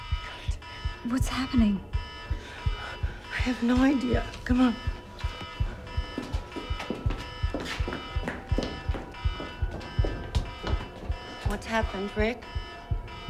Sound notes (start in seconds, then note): 5.5 alarm blares